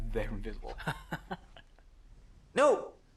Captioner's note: both chuckling